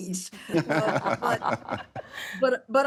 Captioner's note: laughing